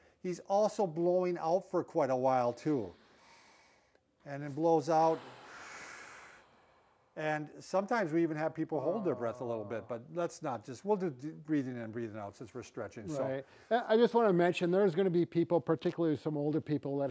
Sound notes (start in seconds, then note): 4.8 exhaling